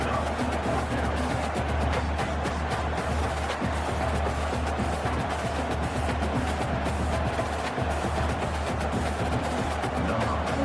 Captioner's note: crowd Noises